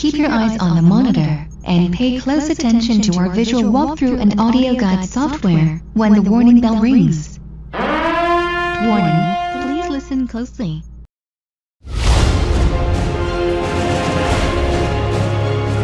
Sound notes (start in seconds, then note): 7.7 horn blaring; 11.8 dramatic music